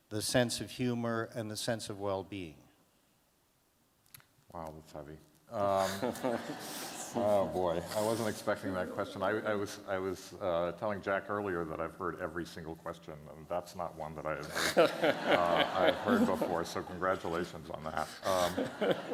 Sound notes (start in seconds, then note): 5.8 laughter; 14.5 laughter